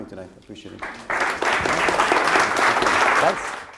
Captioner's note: applause